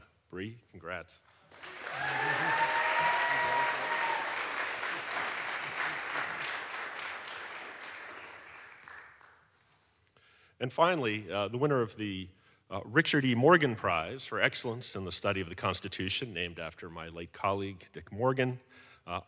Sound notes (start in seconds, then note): 1.4 audience applauds; 1.6 audience cheers